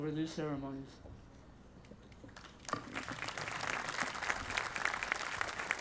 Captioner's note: audience applauding